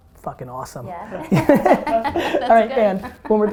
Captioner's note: group laughter